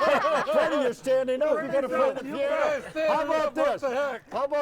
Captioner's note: group chattering